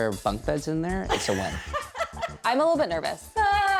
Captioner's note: laughs